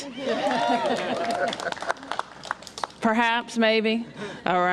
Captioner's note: applause